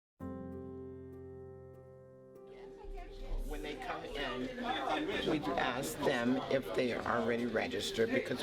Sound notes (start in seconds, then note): 0.2 mild piano music; 2.6 chattering